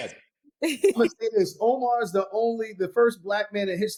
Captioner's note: laughing